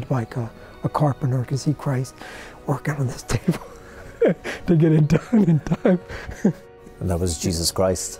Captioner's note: Rires